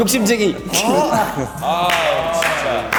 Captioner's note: hehe